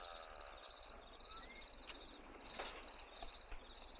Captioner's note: crickets chirping